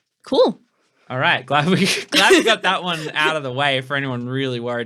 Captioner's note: laughing